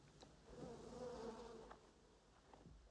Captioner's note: buzzing fly